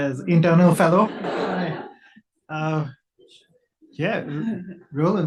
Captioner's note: audience laughs